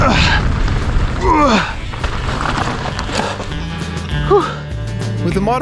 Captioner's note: grunting